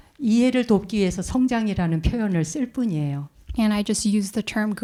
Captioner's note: speaking in Korean